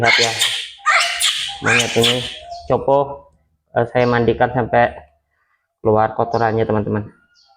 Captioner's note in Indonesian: tertawa